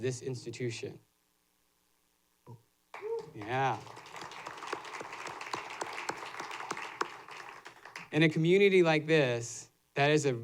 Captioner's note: applause